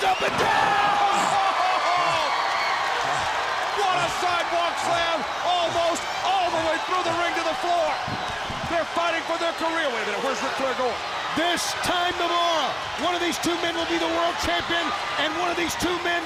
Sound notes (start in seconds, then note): 1.2 crowd cheering; 1.9 crowd chatter